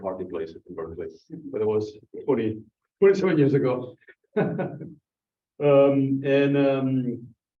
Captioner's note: laughs